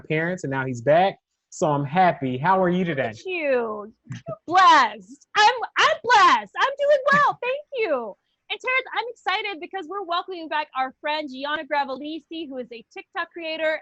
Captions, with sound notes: and now he's back, so I'm happy. -How are you today? -Look at you. -You're blessed. I'm-I'm blessed. -(chuckles) I'm doing well, thank you. And, Terrence, I'm excited because we're welcoming back our friend Gianna Gravalese, who is a TikTok creator